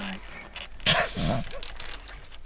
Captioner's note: snickering